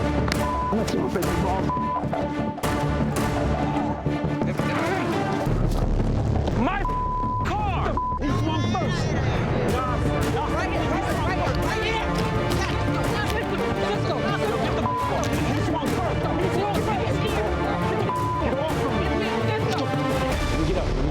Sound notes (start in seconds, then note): 0.3 upbeat music; 7.9 beep